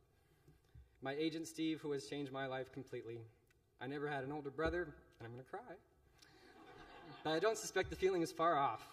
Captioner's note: laughter